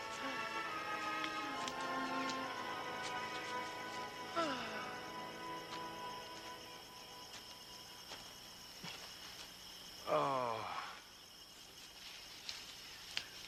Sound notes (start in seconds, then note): 0.0 gentle music; 10.0 Dan groans